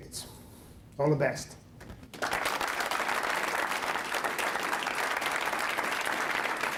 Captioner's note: applause